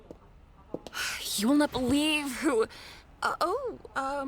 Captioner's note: sighs